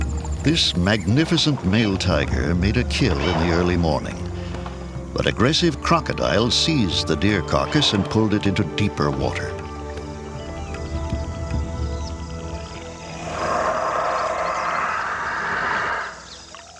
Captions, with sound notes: THIS MAGNIFICENT MALE TIGER MADE A KILL IN THE EARLY MORNING, BUT AGGRESSIVE CROCODILES SEIZED THE DEER CARCASS AND PULLED IT INTO DEEPER WATER. [ROARS]